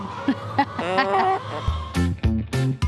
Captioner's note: laughs; upbeat music